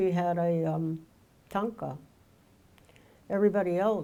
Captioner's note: speaking in foreign language